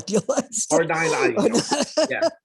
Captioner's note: chuckles